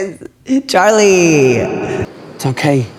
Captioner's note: echoing